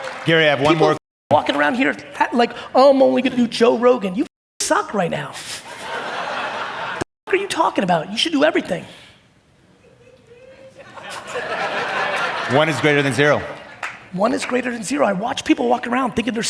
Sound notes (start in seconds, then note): 5.7 audience laugh; 9.8 audience laughing